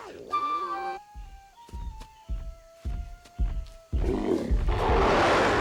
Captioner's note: heavy foot steps; Scarface snarls and growls